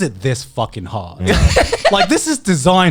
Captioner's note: chuckling